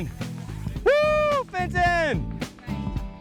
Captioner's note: cheers